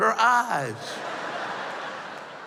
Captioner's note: laughter